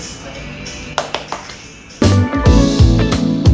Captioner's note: clap Clap